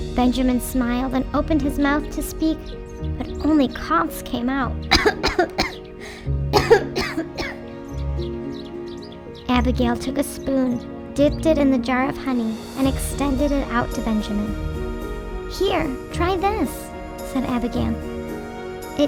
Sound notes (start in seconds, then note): 6.5 coughs; 8.5 gentle music